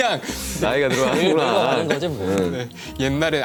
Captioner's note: haha